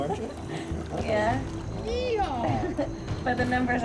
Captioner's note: laughs